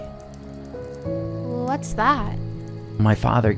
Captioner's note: fire crackling